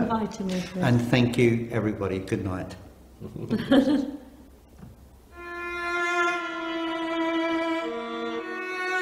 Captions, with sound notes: - Oh, thank you for inviting me, Chris. - And thank you, everybody, goodnight. (laughing) (dramatic music)